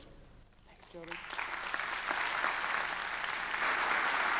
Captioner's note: audience clapping